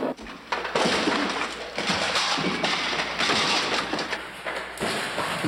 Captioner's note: Sir Simon crashes